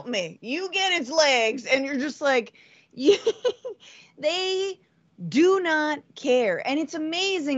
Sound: laugh

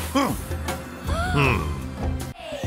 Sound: gasping

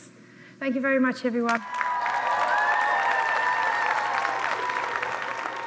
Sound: cheering and applause

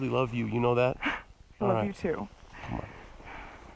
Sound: laughs

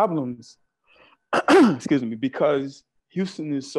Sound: clears throat

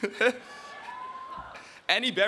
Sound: laughing; audience cheering

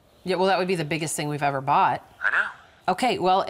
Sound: on phone

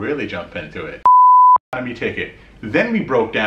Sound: beep

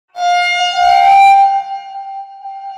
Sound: massive horn

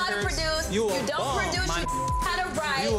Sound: beep

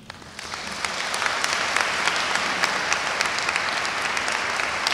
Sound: audience applauds

